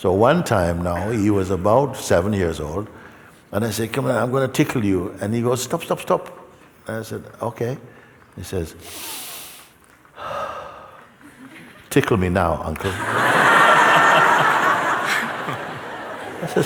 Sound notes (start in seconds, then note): 10.1 taking a deep breath; 12.8 laughter